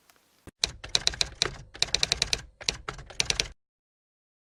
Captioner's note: typewriter typing